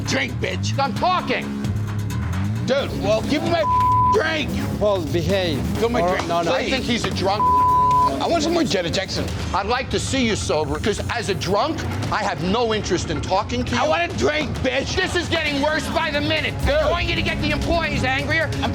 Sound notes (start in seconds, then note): 3.6 beep; 7.4 beep